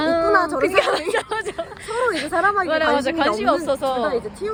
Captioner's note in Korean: 웃음